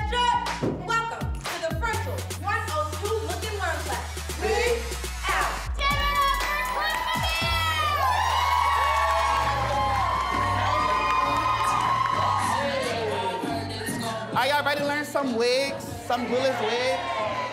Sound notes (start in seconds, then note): 7.8 cheers and applause